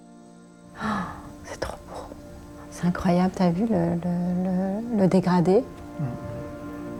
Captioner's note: gentle music; speaking French